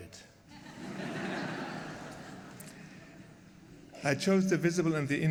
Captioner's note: laughter